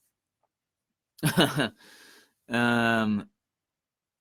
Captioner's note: laughs